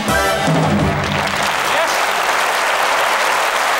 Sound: musical flourish; applause

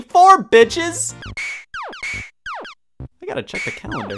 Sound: video game beeps

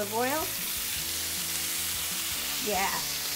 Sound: vegetables sizzle loudly

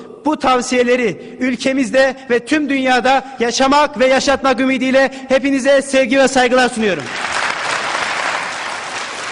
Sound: cheers

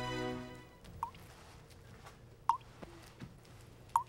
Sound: water dripping

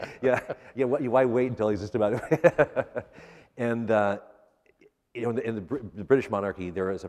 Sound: laughter; laughs

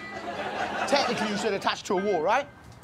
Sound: audience laughing

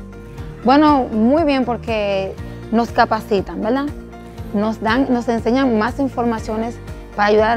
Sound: speaking Spanish

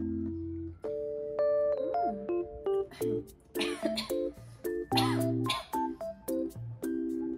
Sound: starts coughing

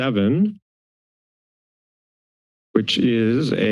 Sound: silence

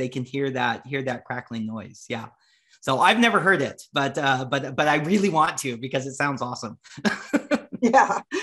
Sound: laughs

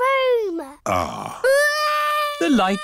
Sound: crying

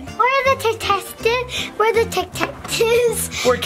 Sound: chuckles

